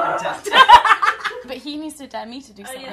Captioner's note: laughter